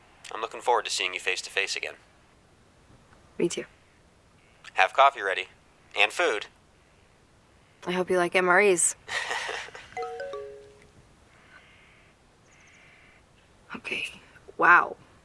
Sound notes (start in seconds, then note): 8.8 laughs; 9.9 phone chimes